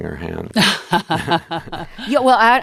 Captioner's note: laughter